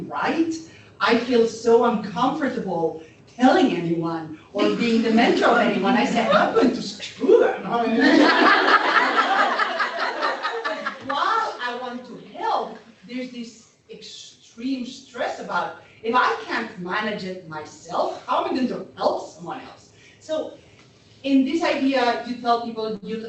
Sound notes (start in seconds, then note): 7.8 laughter